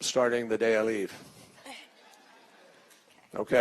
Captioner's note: laughter